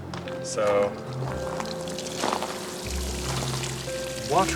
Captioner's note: water trickling